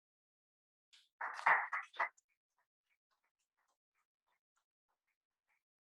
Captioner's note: applause